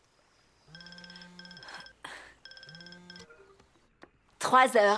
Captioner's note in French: sonnerie de téléphone portable